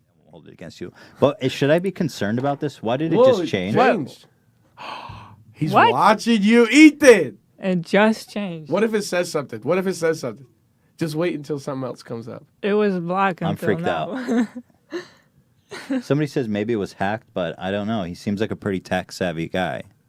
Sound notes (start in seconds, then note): 14.1 laughs